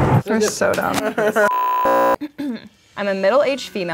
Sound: thunder rumbling; beep

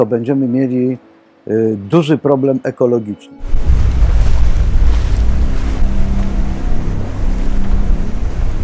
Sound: seawaves splashing

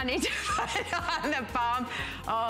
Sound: laughter

